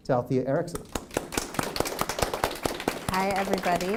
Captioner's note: applause